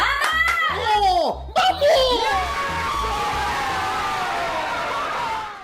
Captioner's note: cheering and shouting